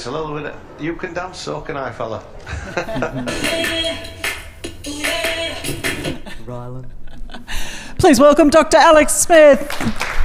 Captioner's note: applause